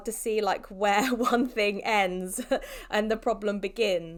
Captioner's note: chuckles